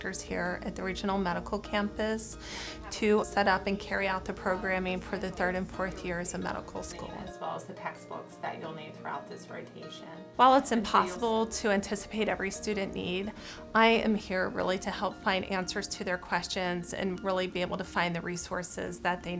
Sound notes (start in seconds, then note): 7.8 background conversations